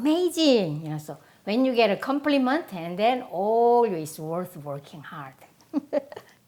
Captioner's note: laughs